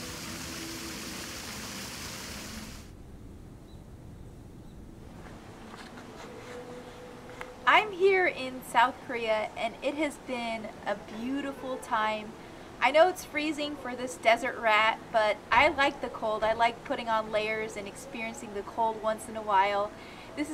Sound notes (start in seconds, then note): 2.3 birds chirping